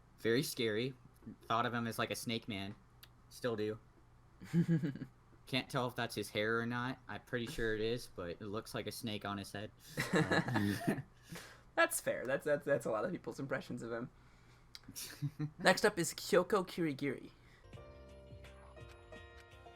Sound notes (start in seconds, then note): 4.5 giggles; 9.9 both laugh; 17.6 clip 10, tense music plays